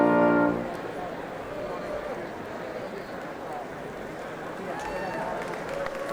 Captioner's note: crowd chatting; applauding